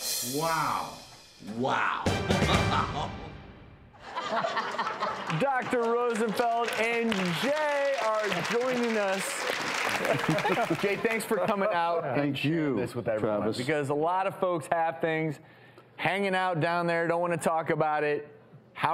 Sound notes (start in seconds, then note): 2.5 laughs; 4.0 audience laughs